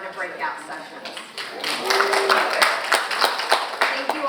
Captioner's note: audience clapping; audience cheering